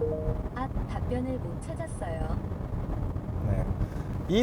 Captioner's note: digital sound: Oops. Did not find the right answer